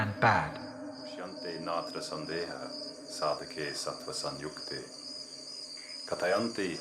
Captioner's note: speaking in Sanskrit